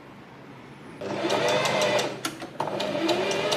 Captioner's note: sewing machine surges